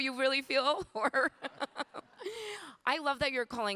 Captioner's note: laughing